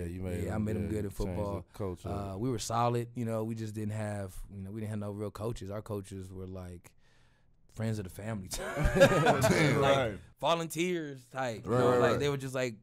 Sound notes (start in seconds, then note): 8.6 laughing